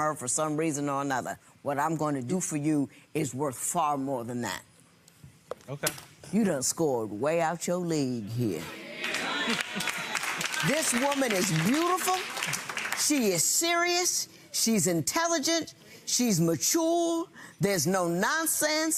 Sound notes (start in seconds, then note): 9.0 audience applauding